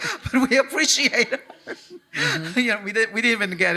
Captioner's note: chuckles